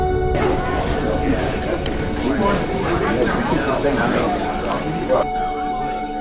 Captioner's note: emotional electronic music; people talking in background; emotional electronic music